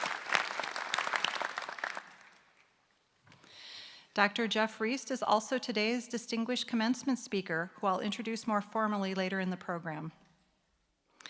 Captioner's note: applause